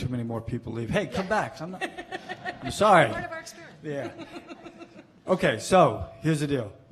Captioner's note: laughing